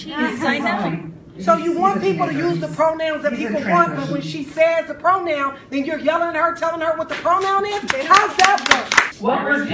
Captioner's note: applause